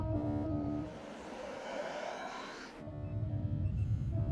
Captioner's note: valve hissing